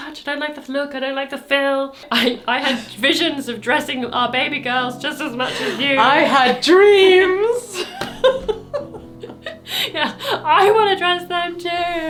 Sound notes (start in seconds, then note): 7.3 laughing